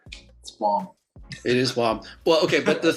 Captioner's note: chuckling